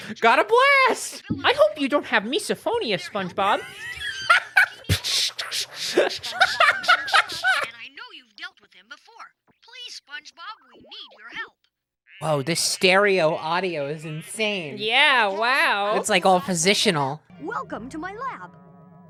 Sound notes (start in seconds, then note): 3.4 laughing; 5.8 imitating static sounds